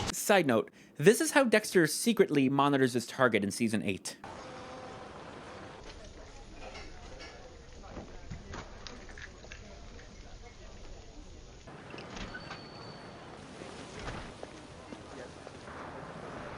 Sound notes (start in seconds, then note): 12.0 diner door jingles